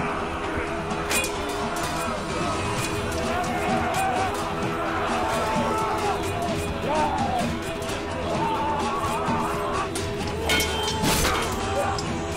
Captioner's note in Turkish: Dövüş Sesleri